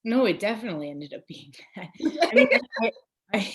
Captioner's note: laughing